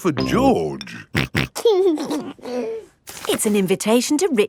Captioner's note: snorting and giggling